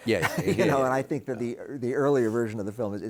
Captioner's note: chuckles